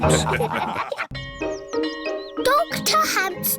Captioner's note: bell tolling